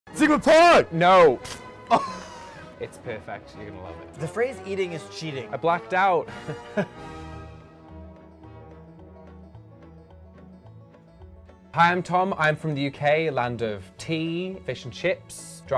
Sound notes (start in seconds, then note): 1.8 laughs; 6.2 chuckles; 7.1 upbeat music